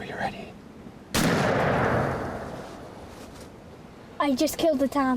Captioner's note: gun fires